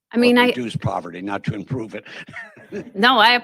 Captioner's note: laughing